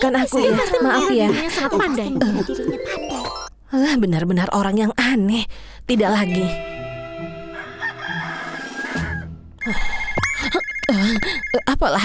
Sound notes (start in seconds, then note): 7.4 rooster crows